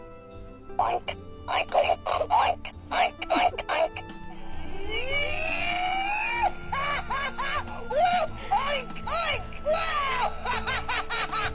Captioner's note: pig making oink sounds